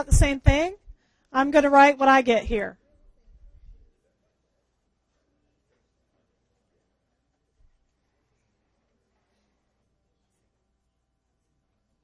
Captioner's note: pause